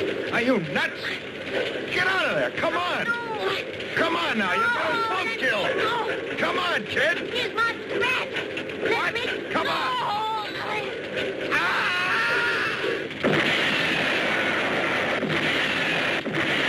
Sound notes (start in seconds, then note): 11.5 man screams; 12.8 explosions booming